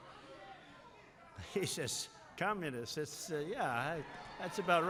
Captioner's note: laughs